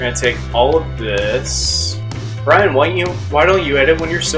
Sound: mocking voice

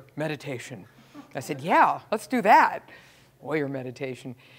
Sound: laugh

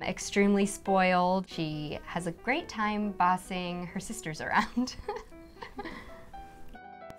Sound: chuckles

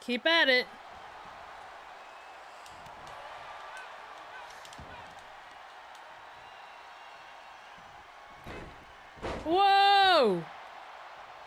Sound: applause; applause

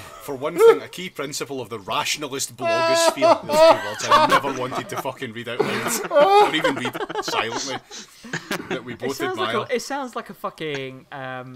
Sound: laughing

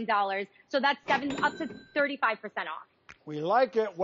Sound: cash register dings

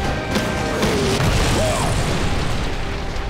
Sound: grunting

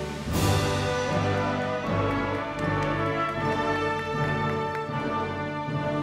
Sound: audience applauding

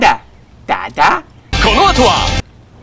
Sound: in Takeshi's voice

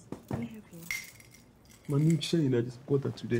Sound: chain clinking

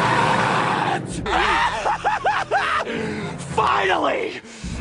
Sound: laughs hysterically

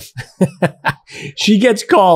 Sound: laughs

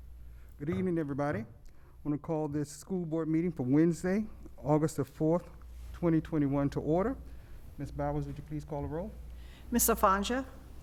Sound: gavel

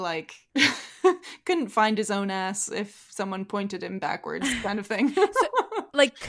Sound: laughs

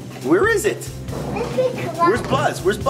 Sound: kid mumbling

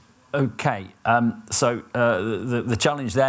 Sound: none

